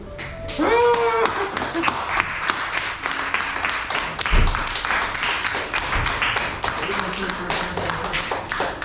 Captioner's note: applause